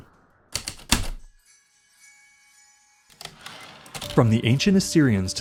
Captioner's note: heavy typewriter keystrokes, light chimes, typewriter return slide